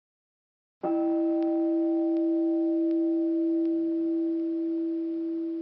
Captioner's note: meditation chime